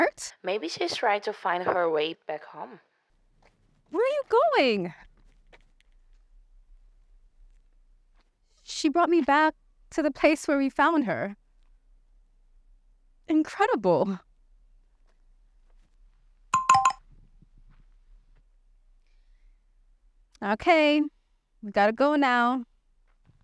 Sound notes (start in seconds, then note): 16.6 phone buzzes